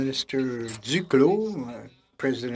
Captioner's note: speaking French